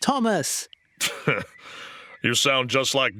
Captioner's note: scoffs